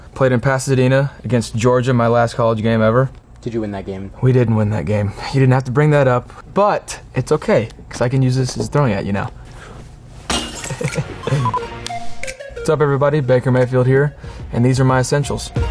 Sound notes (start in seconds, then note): 10.3 shattering; 10.6 laughing; 10.7 upbeat jingle